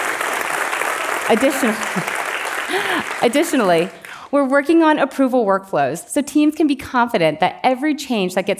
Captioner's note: applause